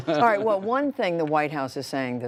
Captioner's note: laughter